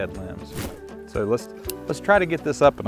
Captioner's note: air whooshing